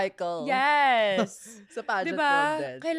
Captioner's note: laughs